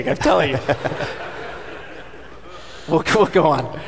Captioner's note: audience laughing